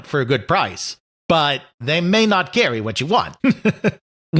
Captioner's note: chuckles